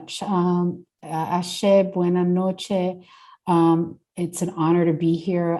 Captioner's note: speaking Spanish